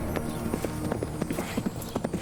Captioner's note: horse galloping; breathing heavily